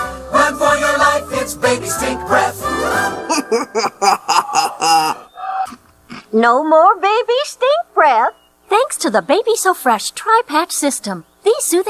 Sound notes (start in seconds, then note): 3.2 chuckles